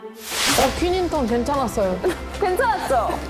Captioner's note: praising sound effect